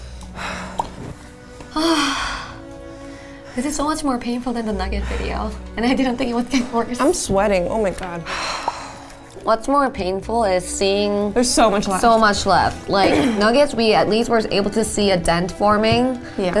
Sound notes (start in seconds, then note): 0.1 somber music; 1.6 sighing; 8.2 sighing